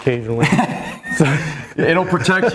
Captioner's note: laughs